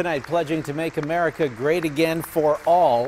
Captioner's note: applause